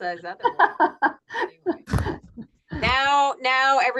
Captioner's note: laughs